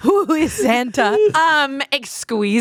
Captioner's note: laughing